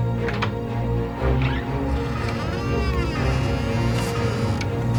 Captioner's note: door creaking